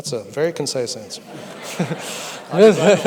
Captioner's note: audience laughter